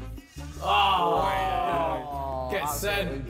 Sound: all cheering

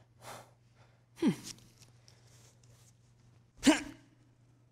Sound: grunts

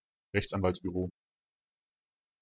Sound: fast Pronunciation

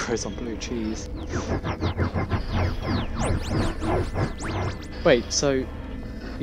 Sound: The Tardis makes a noise of struggle

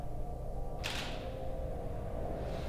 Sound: shutter clicks

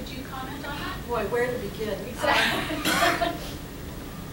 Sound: laughter

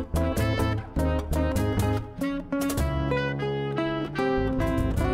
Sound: none

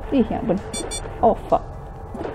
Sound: blocked door sound

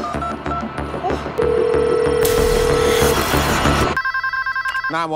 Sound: phone ringing

